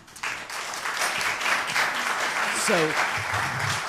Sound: applause

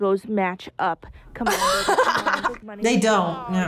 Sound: laughs

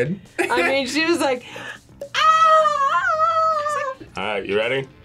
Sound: screams

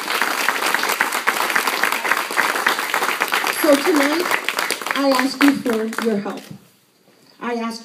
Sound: applause

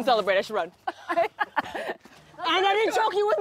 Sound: laughs

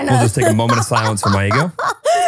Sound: laughing

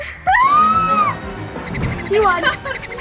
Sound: screams

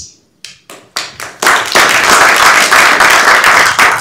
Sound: applause

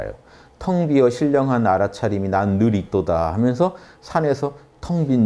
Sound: in sarcastic tone

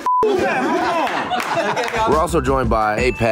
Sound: people laughing

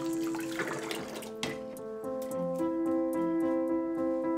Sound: water stopping

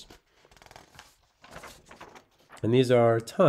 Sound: page rustling

